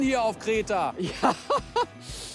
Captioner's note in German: lacht